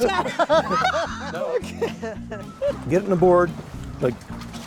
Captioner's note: laughter